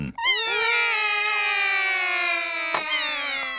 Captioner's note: all cry